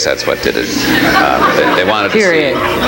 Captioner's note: audience laughs